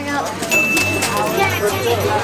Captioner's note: ding; horses clopping; riders talking